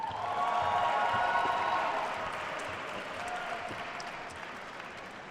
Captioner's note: attendees cheering and applauding